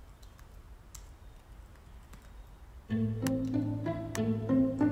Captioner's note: keyboard tapping; uptempo music